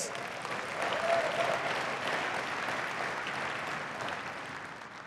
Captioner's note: cheering and applause